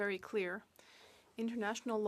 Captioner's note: speaking French